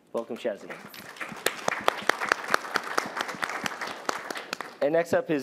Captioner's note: applause